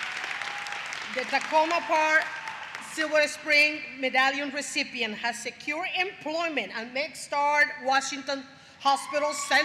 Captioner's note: applause; applause